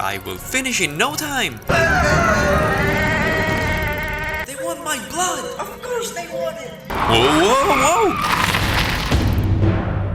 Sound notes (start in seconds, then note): none